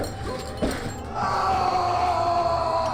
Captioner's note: screaming